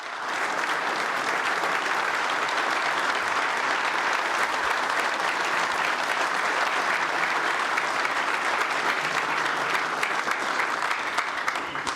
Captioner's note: applause